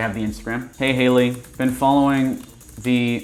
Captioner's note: keyboard typing